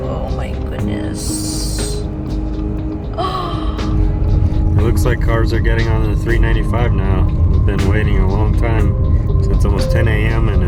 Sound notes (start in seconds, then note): 3.2 gasps